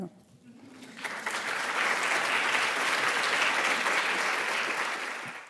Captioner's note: audience applauding